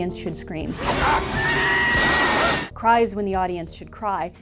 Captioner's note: scream!